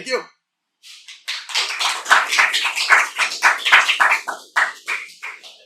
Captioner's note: applause